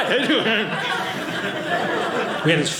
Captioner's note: audience laughing